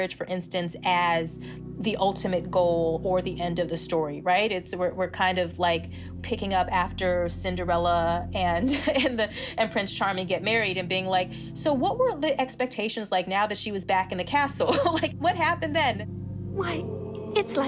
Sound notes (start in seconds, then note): 8.6 laughter